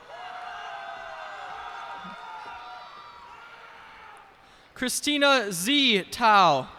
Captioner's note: cheers and applause